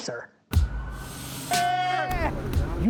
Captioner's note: plane whirring; cheering